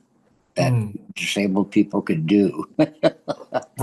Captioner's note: laughs